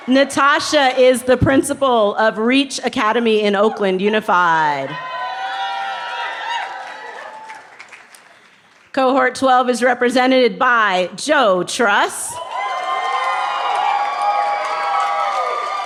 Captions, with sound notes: Natasha is the principle of Reach Academy in Oakland Unified. (cheering) Cohort 12 is represented by Joe Truss. (cheering)